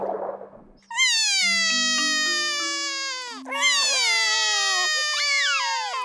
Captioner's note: both crying